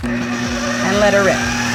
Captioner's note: processor whirs